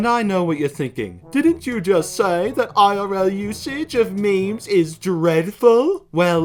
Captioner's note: mocking